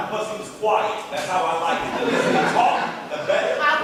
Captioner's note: audience laughing